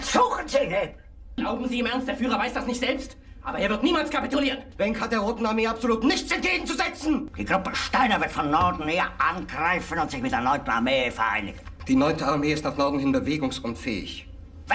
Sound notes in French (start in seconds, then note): 1.2 se plaindre en anglais clair; 4.7 criant un anglais clair; 7.3 parlant un anglais simple; 11.8 parlant un anglais simple